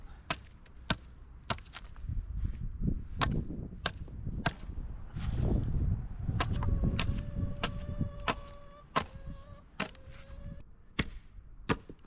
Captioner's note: wind blowing